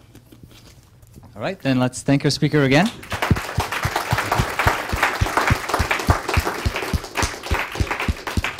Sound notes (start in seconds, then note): 5.0 applause